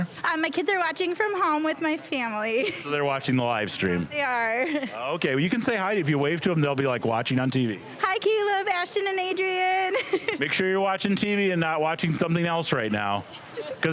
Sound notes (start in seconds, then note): 9.7 laughing